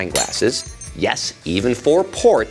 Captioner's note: glass shatters